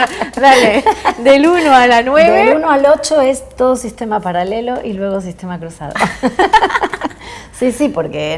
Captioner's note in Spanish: risas